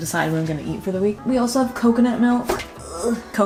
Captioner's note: groans